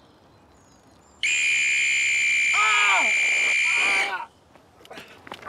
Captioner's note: shrill whistle